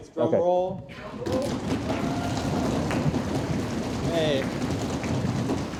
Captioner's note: audience drum rolling and cheering